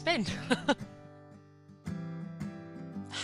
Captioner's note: laughs